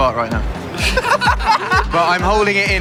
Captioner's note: laughing